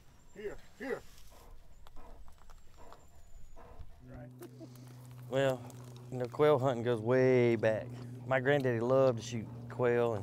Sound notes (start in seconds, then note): 2.6 dog panting